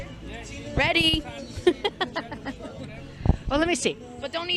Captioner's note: laughter